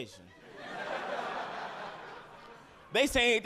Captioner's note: audience laughing